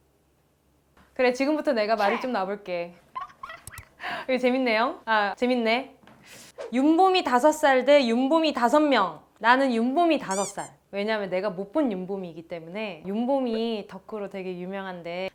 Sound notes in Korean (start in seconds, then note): 3.1 꺄르르